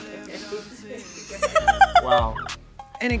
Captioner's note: laughing